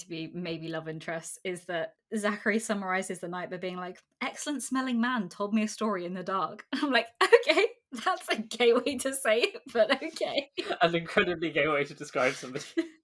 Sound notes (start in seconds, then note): 12.1 laughing; 12.1 laughs